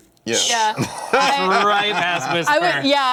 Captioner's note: laughter